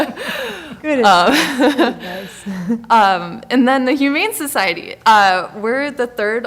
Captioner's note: laughing